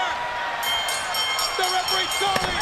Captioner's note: bell ringing